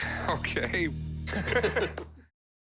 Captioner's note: laughter; laughs